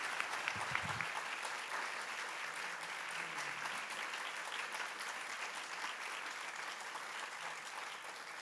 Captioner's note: applause